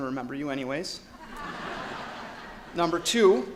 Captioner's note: audience laughs